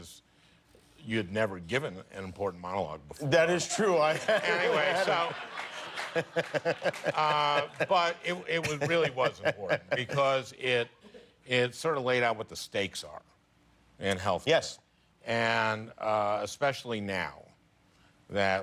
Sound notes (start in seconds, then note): 6.0 laughter